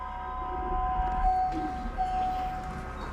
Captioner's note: elevator dings